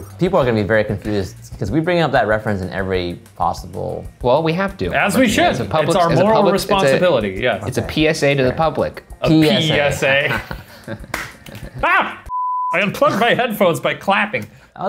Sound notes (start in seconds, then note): 9.4 laughing; 11.0 claps; 11.8 yells; 12.3 beeps